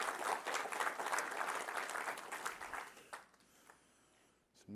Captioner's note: applause